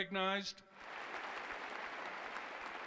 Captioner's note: applause